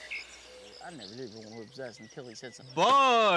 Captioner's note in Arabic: ثرثرة الناس